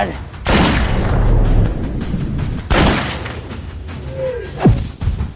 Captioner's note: gunshot